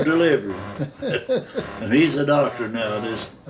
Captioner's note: both laughing